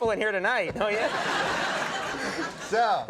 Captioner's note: audience laughing